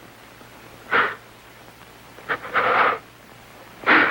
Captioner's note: breathing nervously